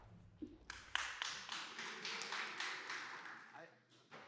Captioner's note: applause